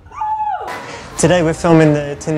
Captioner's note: shrieking